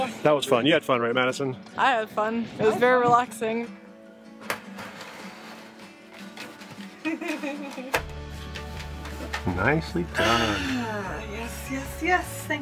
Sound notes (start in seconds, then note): 7.0 chuckling